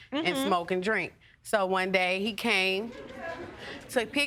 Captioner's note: audience laughing